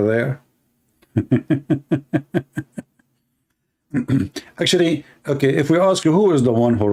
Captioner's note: Ketawa